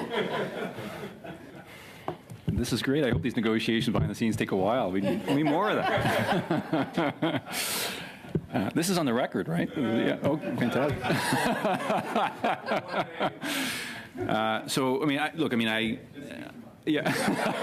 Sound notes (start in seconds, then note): 3.4 laughter; 10.5 laughter